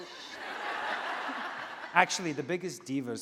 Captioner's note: laughing